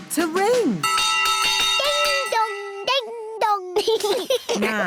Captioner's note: bell rings; laughter